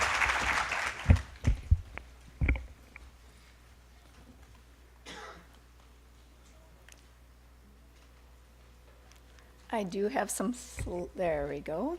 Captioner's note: applause